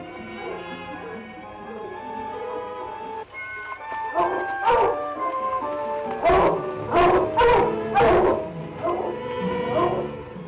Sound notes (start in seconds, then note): 4.1 dogs bark